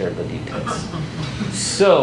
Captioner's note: laughs